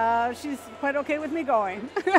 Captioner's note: laughing